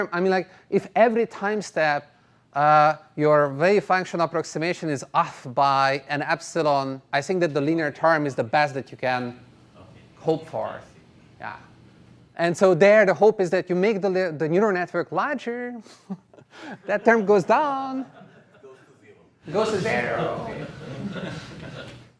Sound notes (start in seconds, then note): 18.0 laughter